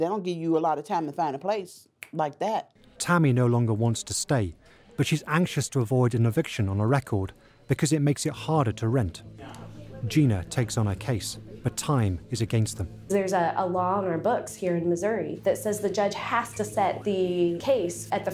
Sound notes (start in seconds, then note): 2.3 snapping fingers